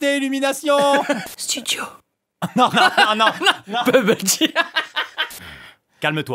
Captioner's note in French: rires